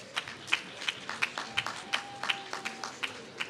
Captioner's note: applause